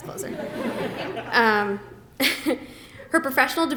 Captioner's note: laughter